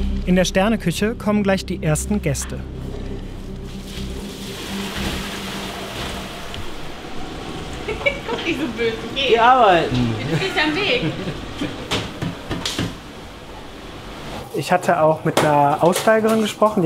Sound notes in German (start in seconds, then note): 2.8 Angespannte Musik; 7.8 Gelächter